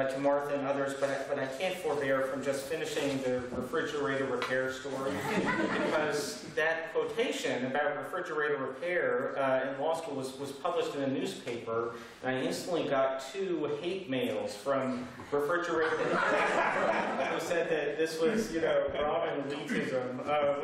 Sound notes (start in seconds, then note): 5.0 laughter; 15.7 laughter